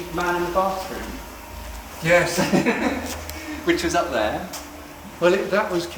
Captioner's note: laughs